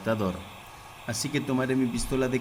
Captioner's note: Se oye la pistola de calor